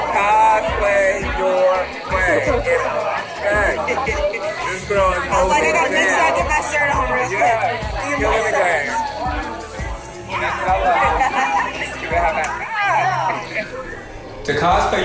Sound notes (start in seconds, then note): 5.9 chatting; 10.9 laughing; 13.7 hands smack